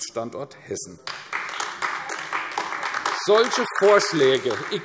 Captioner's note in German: Beifall AfD